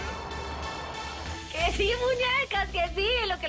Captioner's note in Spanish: Sirenas del vehículo que pasa